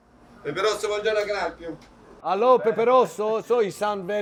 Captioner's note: speaks Italian